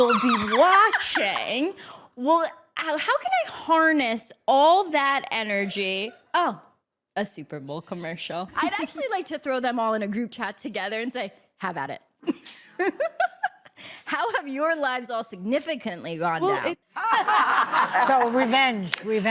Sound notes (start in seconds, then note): 12.3 laughs; 16.9 laughter